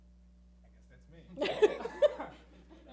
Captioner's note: mumbling; laughing